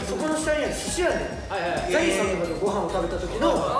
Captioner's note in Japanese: none